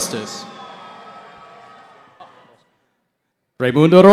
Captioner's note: cheering